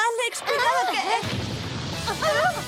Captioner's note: blast